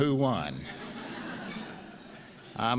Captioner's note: laughs